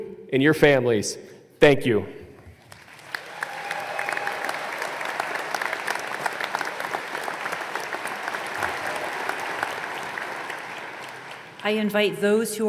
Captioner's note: applause